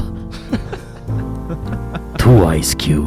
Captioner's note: laughs